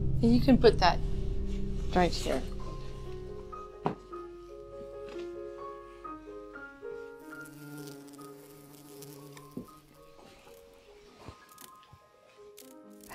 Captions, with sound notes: You can put that right here. (delicate piano music) (fly buzzing)